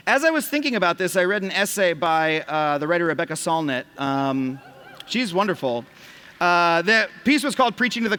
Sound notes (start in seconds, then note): 4.5 cheers